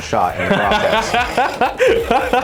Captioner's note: laughing